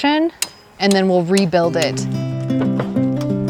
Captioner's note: gentle pleasant music; muffled chatter